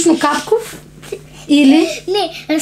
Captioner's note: laughing